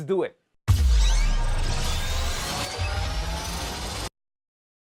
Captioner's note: electronic whooshing